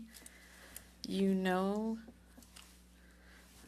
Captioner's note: speaking French